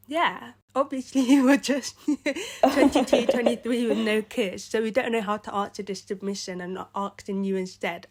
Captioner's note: giggles